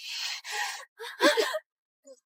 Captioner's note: gasp!